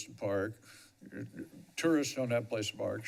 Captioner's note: breathes